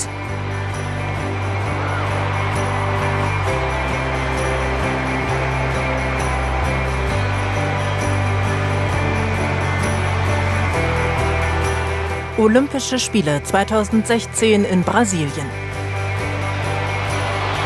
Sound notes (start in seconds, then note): 3.5 applause